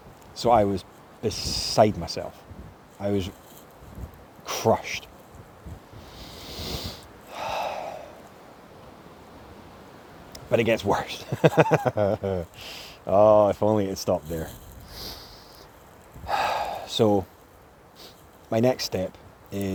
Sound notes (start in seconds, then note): 7.3 big ol' sigh; 11.2 laughs; 16.2 l'il sigh